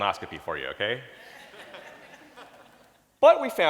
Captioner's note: audience laughing